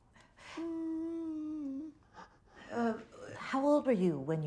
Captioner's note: Richard moaning